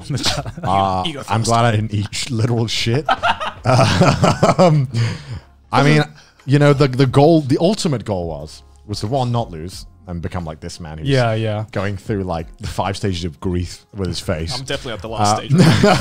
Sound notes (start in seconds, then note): 3.0 laughs heartedly